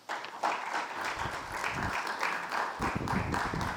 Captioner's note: audience applauding